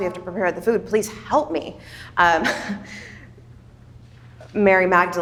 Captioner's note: chuckles